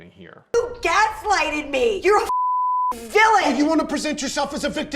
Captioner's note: beep